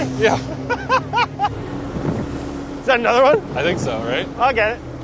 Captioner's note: cackles